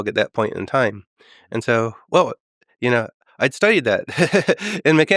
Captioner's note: laughs